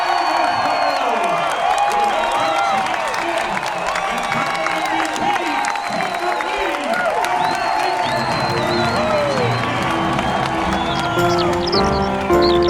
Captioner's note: cheering